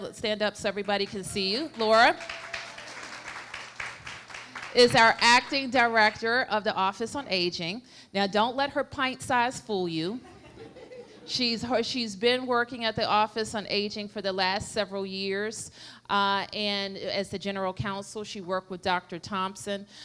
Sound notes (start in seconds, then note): 4.5 applause